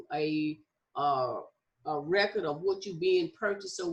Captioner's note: none